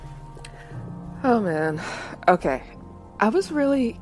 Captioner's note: sighs